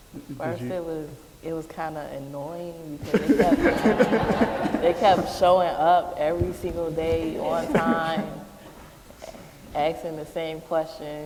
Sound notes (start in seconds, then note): 3.0 laughter